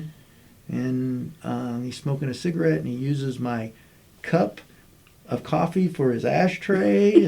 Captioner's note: laughter